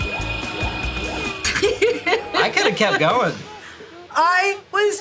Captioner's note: laughing